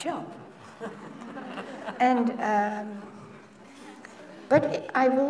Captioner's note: laughter